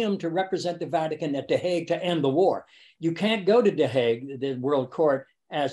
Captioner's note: none